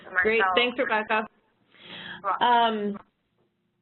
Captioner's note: voiceover